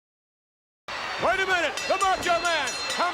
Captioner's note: bell rings